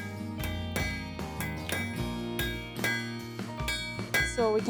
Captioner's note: metal clanging